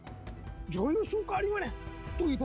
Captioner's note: speaking in regional language